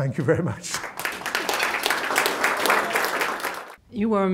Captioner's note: applause